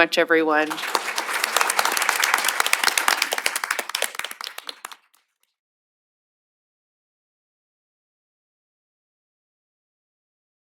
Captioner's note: applause